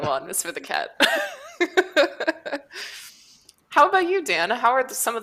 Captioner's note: laughs